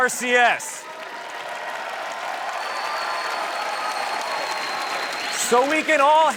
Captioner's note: applause